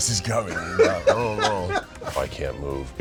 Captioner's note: laughter